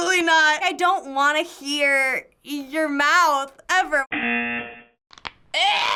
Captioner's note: buzzer